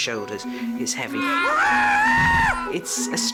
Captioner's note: screams